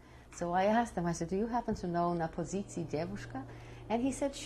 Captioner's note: russian